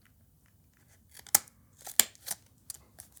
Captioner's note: snap x2